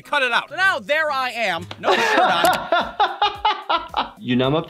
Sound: laughter

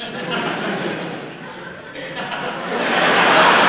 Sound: laughter

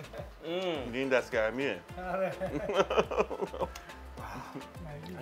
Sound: speaks in foreign language

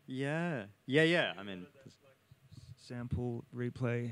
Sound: speaks away from mic

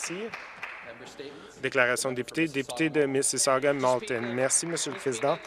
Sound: some Applause

